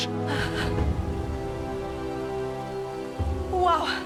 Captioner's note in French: bruissement de feuilles